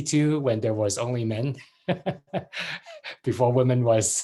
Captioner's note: laughs